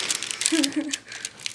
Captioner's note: laughing